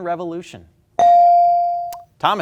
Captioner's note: ding chimes